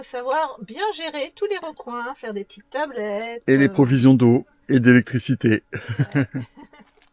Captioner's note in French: rires